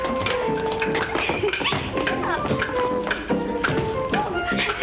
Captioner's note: girls giggling